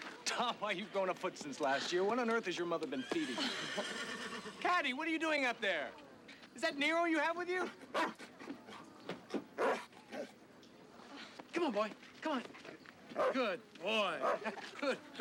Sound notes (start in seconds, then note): 3.0 horse whinnies; 7.9 Nero barking